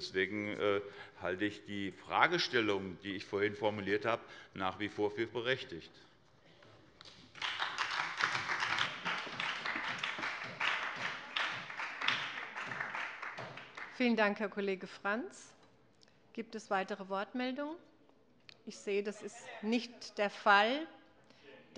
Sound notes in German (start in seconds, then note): 7.0 Beifall bei der SPD